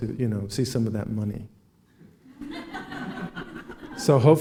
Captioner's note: laughing